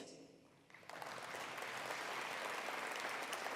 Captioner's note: applause